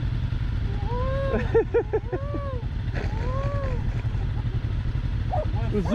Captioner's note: imitating the Açor